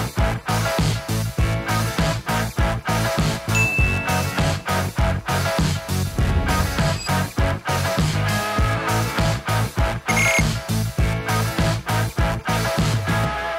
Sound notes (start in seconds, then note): 3.5 dinging; 10.1 beeping